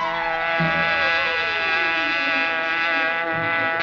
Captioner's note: buzzing